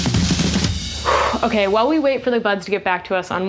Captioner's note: sighs